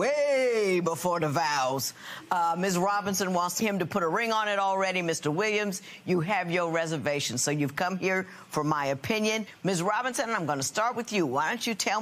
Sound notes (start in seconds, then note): none